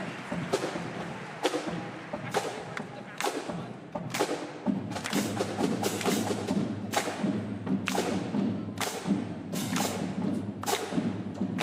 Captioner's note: applause